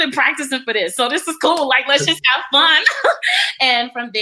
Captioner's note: laughs